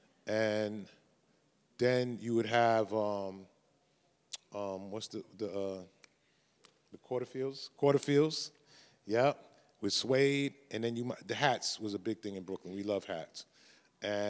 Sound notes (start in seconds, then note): 5.2 snaps